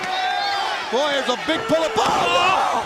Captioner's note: crowd chatter